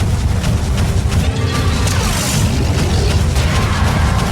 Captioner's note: cannons firing